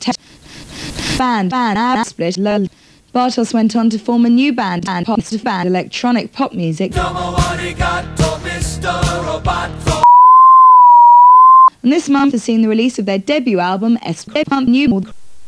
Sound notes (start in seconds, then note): 0.2 heavy breathing; 10.0 distorted sine wave